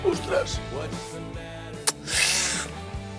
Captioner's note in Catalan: inspira